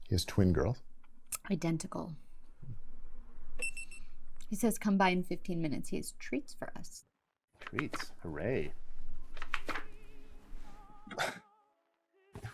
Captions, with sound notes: He has twin girls? - Identical. (phone beeps) - He says, "Come by in 15 minutes," he has treats for us - Treats, hurray!